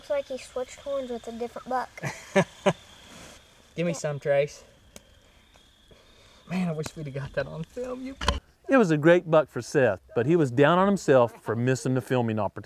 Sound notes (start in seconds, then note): 6.4 laughter